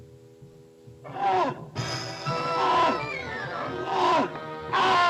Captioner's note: lion roaring; monkey screeching; lions grunting